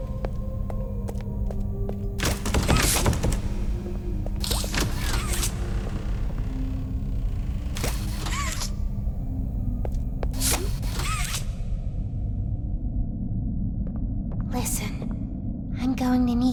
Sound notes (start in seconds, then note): 0.2 door opens; 10.2 door opens